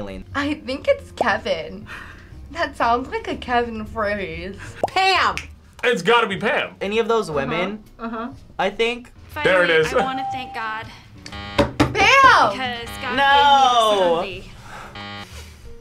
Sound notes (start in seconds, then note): 5.2 snaps; 14.8 buzzer